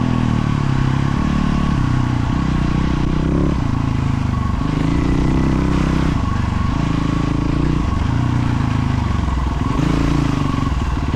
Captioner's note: engine revving